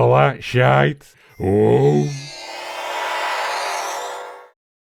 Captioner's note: teleporter whine